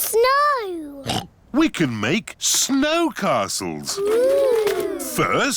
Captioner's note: oinks